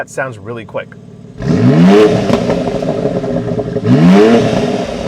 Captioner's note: car engine roaring